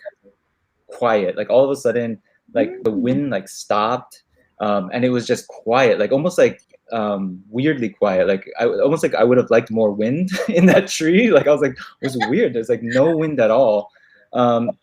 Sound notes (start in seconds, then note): 11.7 laughs